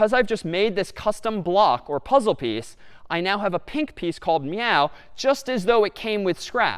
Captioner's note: none